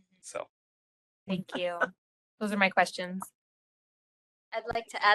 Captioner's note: laugh